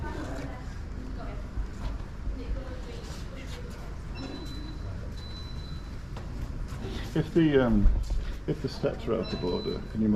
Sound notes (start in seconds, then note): 4.1 beeping